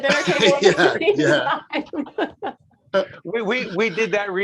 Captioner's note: laughing